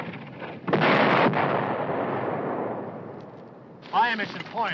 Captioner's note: bomb exploding